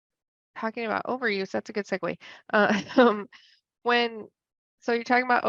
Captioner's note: laughs